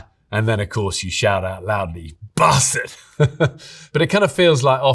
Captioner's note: laughs